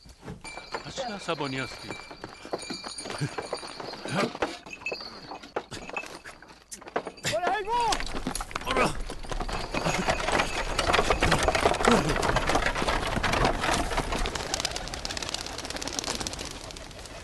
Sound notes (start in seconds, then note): 4.0 grunting sound; 9.8 rattling; 14.0 wingbeats